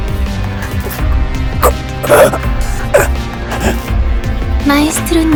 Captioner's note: choke